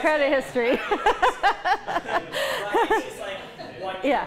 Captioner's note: laughter